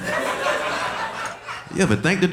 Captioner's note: audience laughing